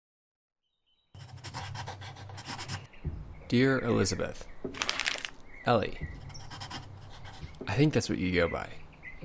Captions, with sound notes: [Pencil scratching] Dear Elizabeth. [paper crumpling] Ely. [pencil scratching] I think that's what you go by.